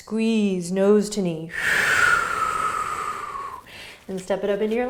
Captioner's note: exhaling